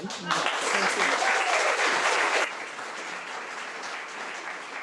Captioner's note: audience applauding